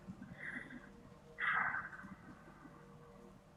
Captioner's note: sighs